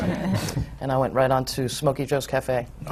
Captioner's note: laughter